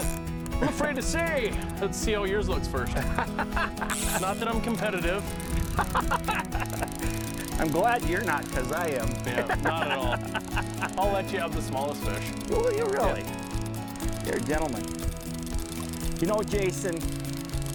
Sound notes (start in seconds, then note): 2.9 laughing; 2.9 laughs; 5.1 laughing; 10.9 laughing